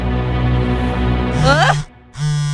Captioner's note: music building; yelps